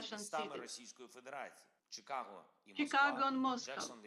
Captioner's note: speaking in foreign language